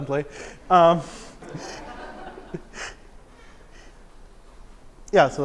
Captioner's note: laughter